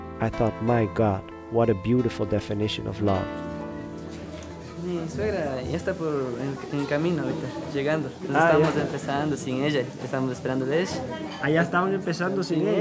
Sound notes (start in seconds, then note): 5.0 speaking in foreign language